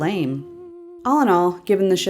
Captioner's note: Mama/Isabella humming the lullaby